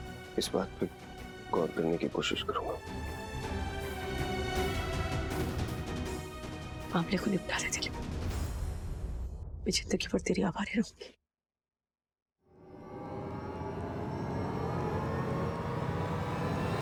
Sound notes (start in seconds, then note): 12.6 atmospheric sound